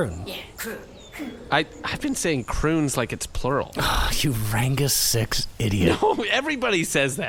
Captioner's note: deep sigh